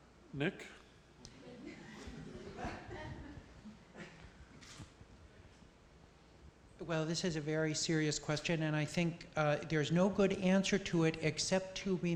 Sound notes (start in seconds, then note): 1.6 laughter